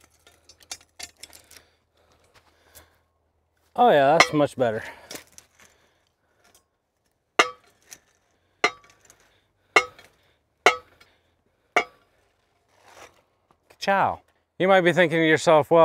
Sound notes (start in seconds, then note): 7.4 puller machine clanging